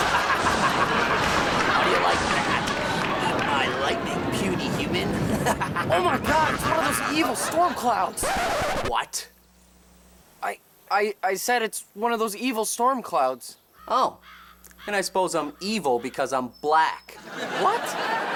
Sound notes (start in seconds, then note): 0.0 laughs; 7.8 record scratches; 17.2 audience laughs